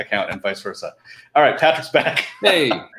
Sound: laughing

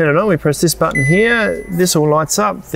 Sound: fridge beeps

